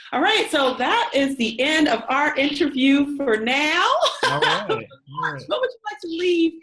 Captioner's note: laughs